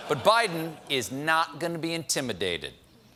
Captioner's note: laughter